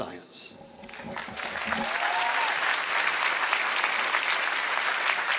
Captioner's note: applause